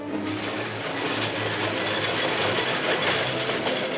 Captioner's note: train rumbling